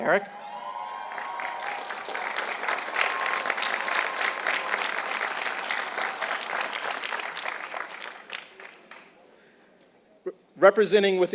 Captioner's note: applause